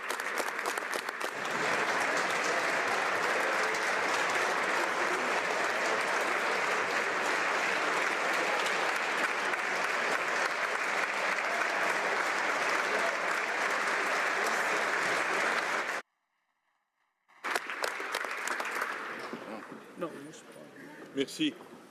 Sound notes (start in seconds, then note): 5.3 some Applause